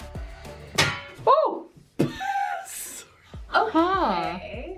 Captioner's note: laughs